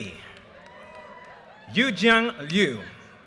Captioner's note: audience cheers and applause